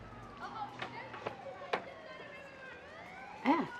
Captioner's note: children muttering